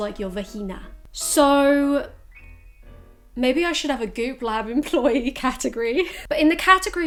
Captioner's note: laughs